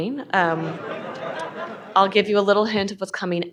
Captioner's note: audience laughing